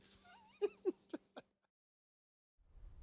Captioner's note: laughing